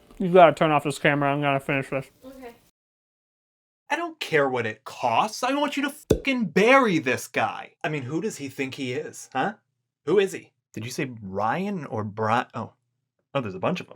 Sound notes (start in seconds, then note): 6.1 pop